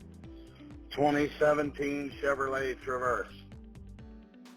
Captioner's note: male Voice